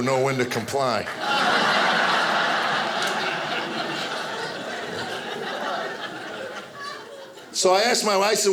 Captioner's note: audience laughing